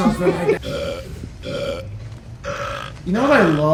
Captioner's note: Winehouse burps repeatedly